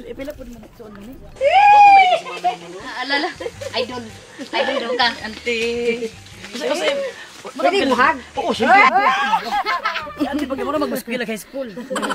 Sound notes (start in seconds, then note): 1.4 cheering; 8.6 crowd cheering